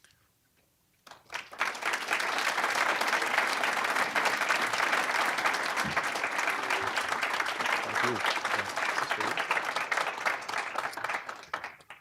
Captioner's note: applause